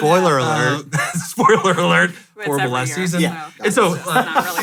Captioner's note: laughs